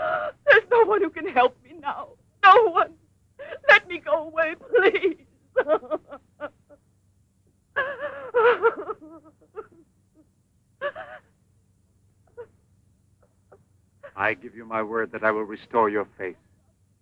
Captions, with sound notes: - There's no one who can help me now, no one. (sobbing) Let me go away, please. (sobbing) - I give you my word that I will restore your face,